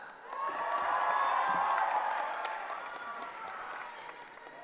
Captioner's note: cheering